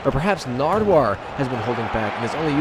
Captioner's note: none